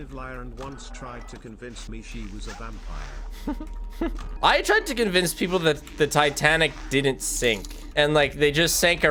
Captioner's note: laughs